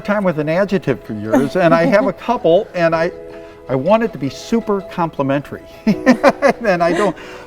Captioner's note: laughs